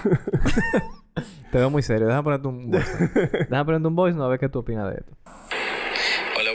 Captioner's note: laughs; laughs